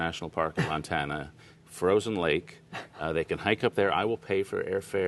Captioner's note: laughter